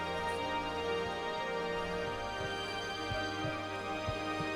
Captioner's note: heart beating